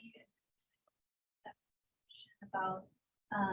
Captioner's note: audio drop